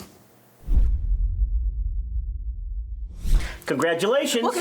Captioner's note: logo thuds